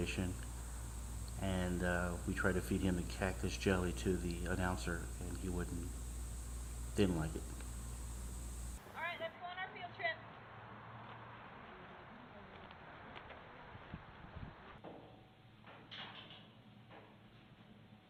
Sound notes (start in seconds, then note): 10.6 group chatter